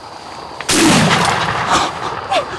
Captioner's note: gunshot